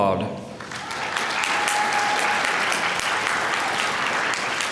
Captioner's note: applause